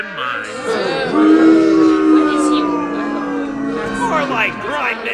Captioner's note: booing